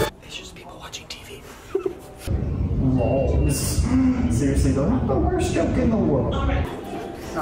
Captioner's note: giggles